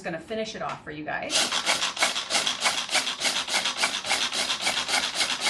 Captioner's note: food processor ratcheting